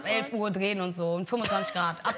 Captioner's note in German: Gelächter